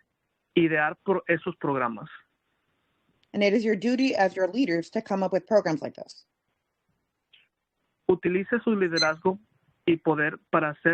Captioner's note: speaking Spanish